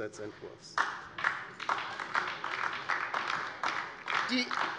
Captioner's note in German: Beifall DIE LINKE